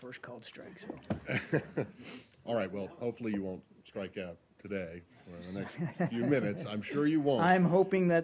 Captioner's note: laughter; laughter